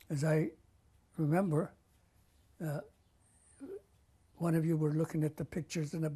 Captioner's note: pauses for 3 seconds